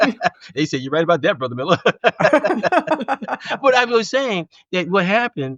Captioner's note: laughing